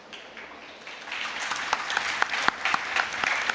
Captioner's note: applause